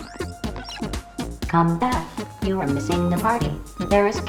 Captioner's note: robotic Voiceover